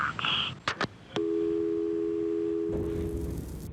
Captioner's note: disconnected dial tone